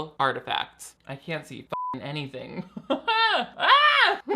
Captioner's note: beep